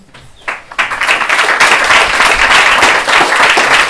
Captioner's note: applause